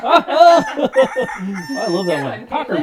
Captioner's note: rooster crowing